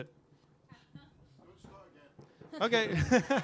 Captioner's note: laughter